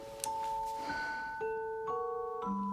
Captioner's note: sighs